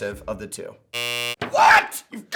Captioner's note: buzzer sound